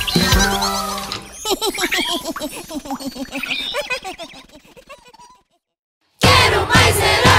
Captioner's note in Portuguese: Risos